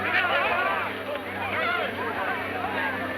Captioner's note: men shouting